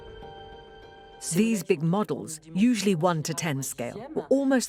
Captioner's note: voiceover